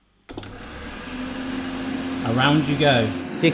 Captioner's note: whirring